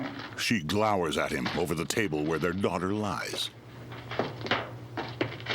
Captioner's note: paper crumpling